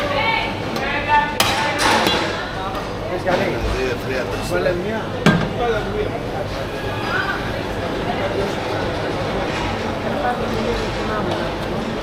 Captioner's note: crowd chattering